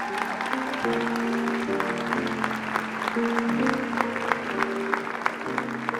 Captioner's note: applause